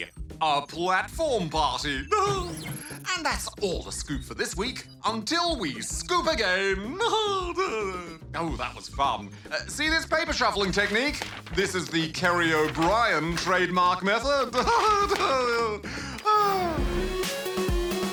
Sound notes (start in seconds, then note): 7.2 laughs; 14.3 laughs